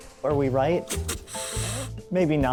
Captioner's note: hisses